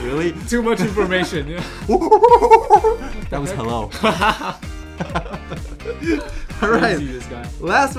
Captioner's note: monkey sounds